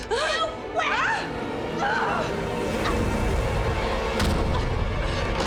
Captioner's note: Jill gasps; head thuds